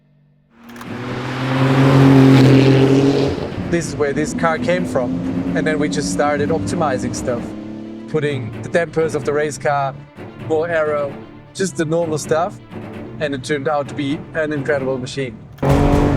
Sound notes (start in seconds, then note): 1.1 engine revving